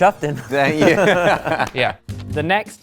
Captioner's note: laughing